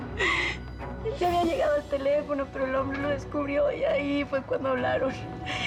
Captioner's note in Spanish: sollozos